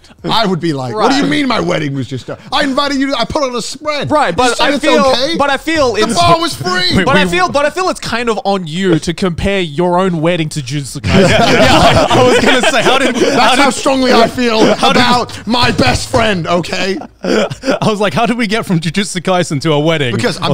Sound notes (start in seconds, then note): 11.3 all laughing